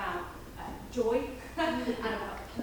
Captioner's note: audience laughing